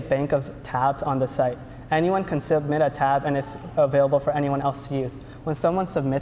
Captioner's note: none